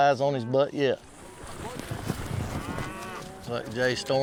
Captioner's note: hoof beats, cows mooing